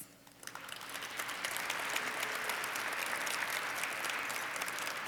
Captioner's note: audience applauds